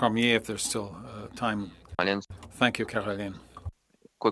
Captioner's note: speaking French